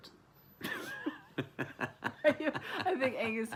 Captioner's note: laughing